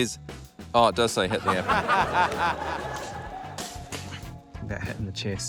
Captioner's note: laughter